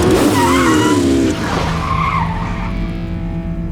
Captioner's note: skrrrt